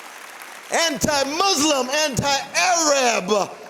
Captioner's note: applause